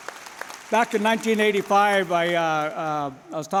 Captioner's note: applause